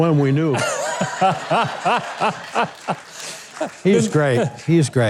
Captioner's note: crowd laughing